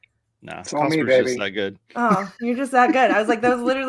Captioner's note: laughing